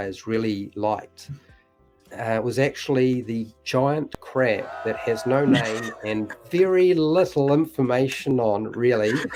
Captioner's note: crowd cheer, laughs